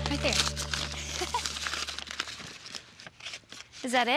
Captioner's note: tearing wrapping